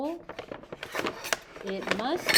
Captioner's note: objects clanking